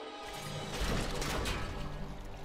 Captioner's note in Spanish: sonido metálico